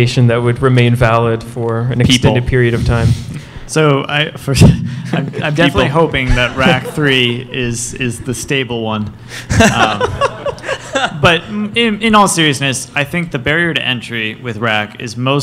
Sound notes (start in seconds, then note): 9.4 laughter